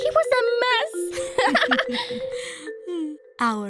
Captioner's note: Cabby and Bot chuckle